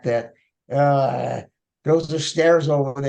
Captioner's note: groaning